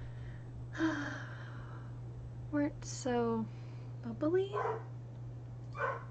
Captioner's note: sigh